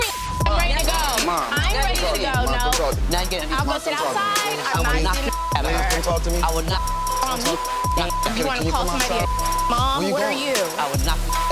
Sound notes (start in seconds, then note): 0.0 beep; 3.6 people yelling at once; 8.4 beep; 10.6 beep